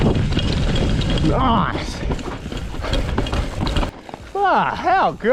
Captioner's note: pants